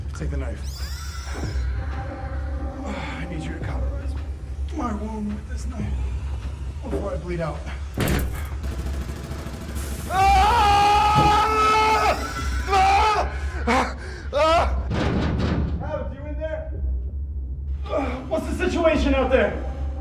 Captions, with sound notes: Take the knife. I need you to cauterize my wound with this knife before I bleed out [gunshots and shriekers screaming] [Adams screaming] Adams, you in there? What's the situation out there?